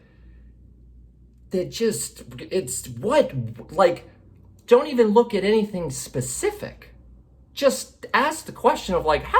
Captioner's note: none